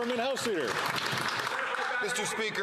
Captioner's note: some Applause